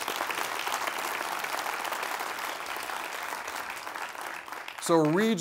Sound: applause

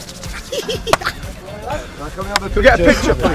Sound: laughing

